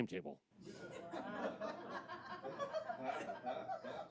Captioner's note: audience laughs